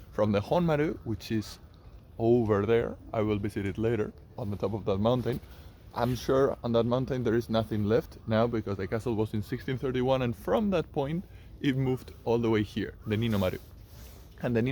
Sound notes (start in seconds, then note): 9.5 fire